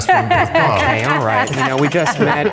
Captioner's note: laughing